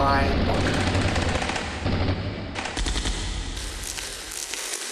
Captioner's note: machine-gun fire